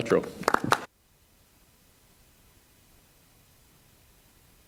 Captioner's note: crowd applauding